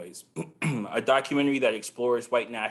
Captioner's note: clears throat